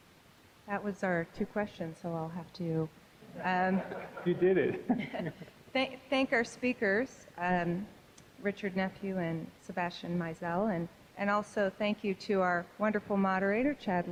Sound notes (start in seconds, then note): 3.3 audience laughing